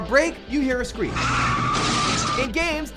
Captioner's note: screeching and crashing